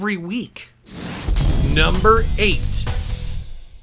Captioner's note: explosion rumbles